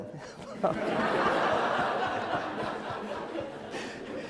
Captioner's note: laughing